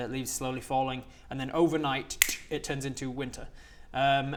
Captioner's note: click